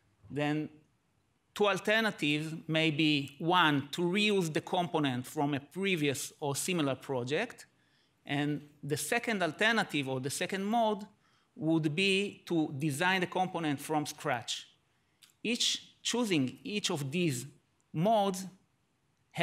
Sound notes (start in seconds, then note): none